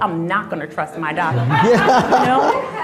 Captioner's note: crowd laughing